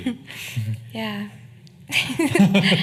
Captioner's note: laughing